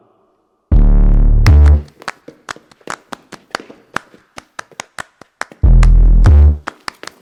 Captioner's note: rhythmic clapping; hip hop music